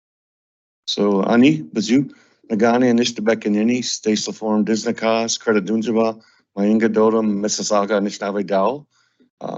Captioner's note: introduces himself in Anishinaabemowin